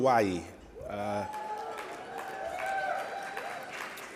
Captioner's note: audience cheering